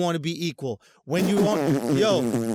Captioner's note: spitting sound